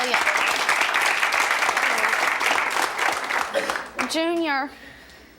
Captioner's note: audience claps